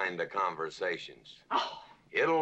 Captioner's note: scoffs